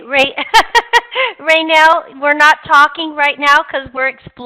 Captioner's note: laughing